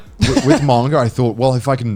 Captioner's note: laughs